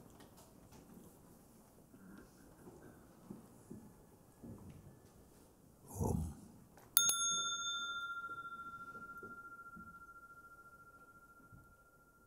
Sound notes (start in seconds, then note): 7.0 Mooji rings the bell; 9.9 long silence